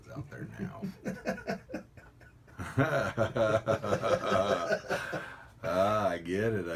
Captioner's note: laughter